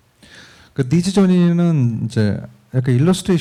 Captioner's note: speaking korean